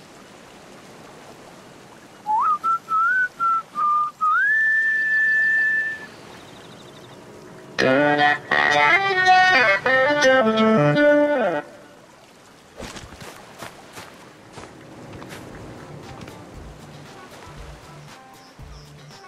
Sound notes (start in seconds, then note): 2.2 whistle